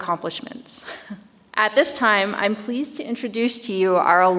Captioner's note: chuckles